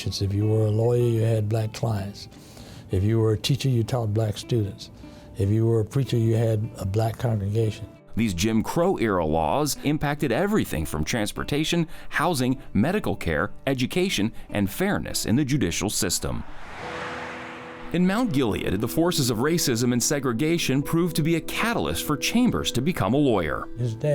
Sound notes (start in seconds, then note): 16.2 air whooshing; 16.8 calm music